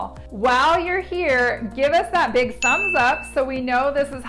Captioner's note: bell rings